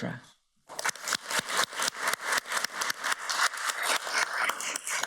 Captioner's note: everybody applauds